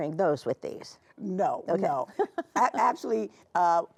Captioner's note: chuckling